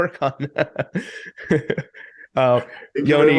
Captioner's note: laughing